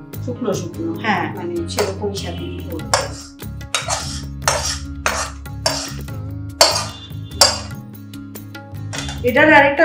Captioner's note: cooking sound